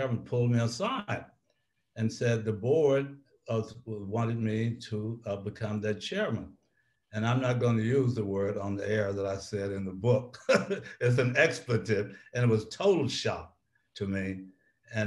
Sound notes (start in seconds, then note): 10.4 laughs